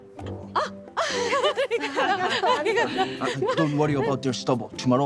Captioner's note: girls giggling